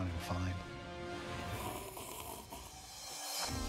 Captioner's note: slurping